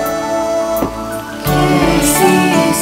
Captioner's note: Car door opens